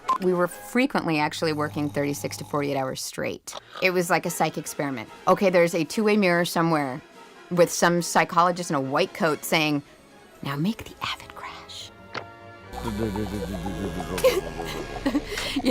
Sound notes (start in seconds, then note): 10.4 whispering; 12.8 sobbing